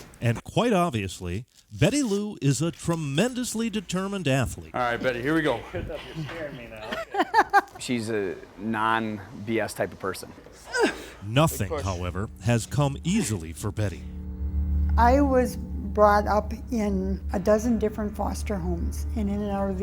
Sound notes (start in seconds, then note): 7.3 laughs; 10.4 grunt